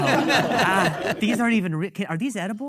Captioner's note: audience laughing